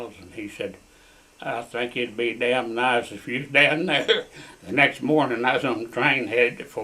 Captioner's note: laughs